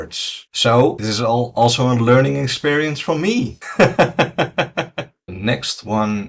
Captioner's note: laughs